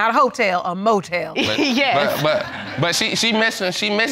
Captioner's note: laughs